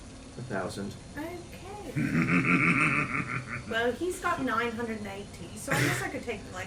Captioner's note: laughs